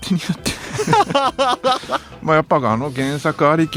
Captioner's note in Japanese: 笑い